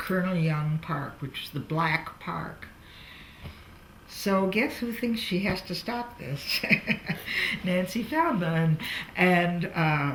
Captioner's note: laughs